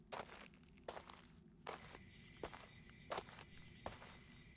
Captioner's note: footsteps